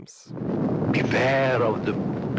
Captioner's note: gusting